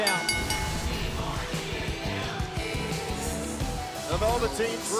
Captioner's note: bell ringing